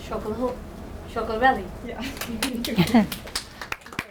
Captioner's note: applause